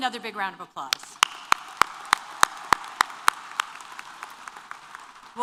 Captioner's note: applause